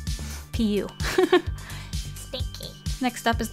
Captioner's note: giggle